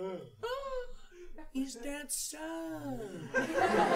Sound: gasp

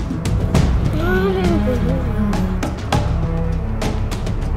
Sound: moans

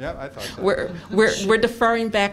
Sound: laughter

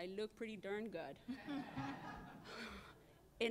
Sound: laughter

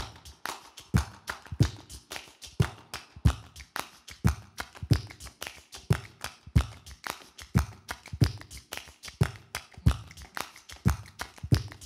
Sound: beatboxing and clapping his hands

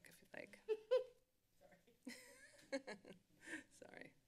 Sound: laughter

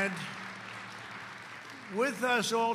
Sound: applause

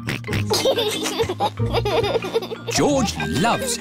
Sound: oinks and laughs

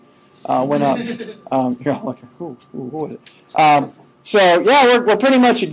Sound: scattered chuckling

